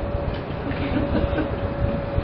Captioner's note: Gülüyorlar